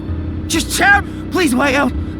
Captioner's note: tojo grunt